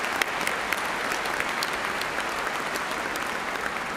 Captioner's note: cheers and applause